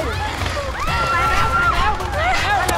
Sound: screams

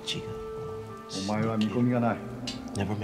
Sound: speaks in foreign language

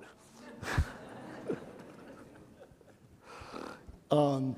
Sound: chuckling

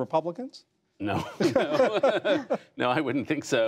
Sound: laughter

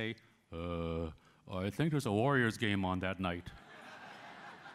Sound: laughter

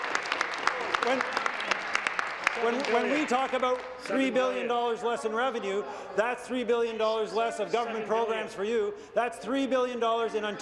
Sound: applause

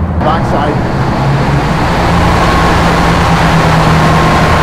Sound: boat drowns out speaker

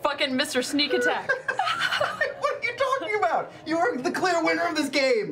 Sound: laughing

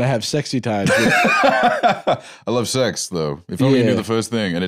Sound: laughs

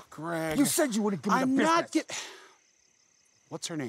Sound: sighs

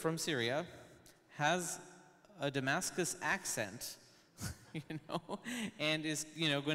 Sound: laughs

